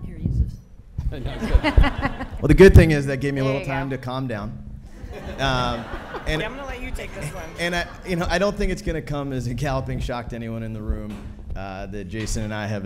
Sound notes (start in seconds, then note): 1.1 laughing; 4.9 audience laughing